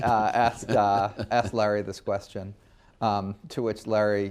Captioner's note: laughs